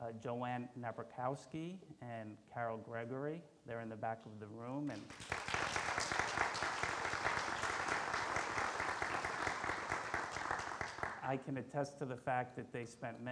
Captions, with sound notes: Joanna Nebrokowski and Carol Gregory. They're in the back of the room. (audience applauds) I can attest to the fact that they spent